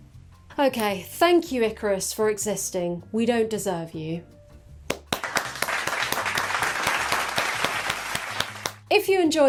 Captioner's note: applause